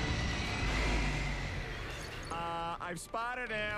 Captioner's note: screeching